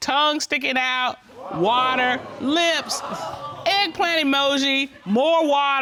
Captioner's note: audience exclaiming